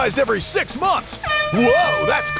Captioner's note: airhorn sounds